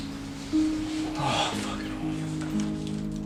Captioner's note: sighs